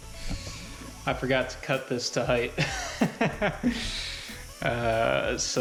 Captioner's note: laughing